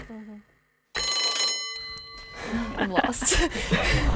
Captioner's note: bell ringing